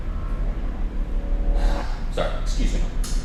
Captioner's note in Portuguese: NOUTH NOUTRE suspira